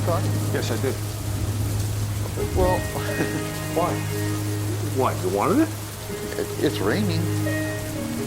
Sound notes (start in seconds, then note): 2.4 chuckles